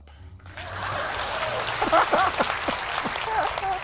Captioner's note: crowd clapping